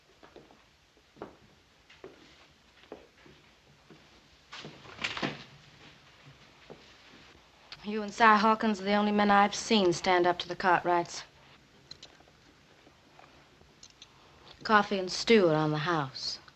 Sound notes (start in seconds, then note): none